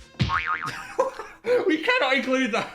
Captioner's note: Phil laughing